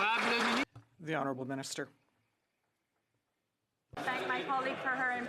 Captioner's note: some Applause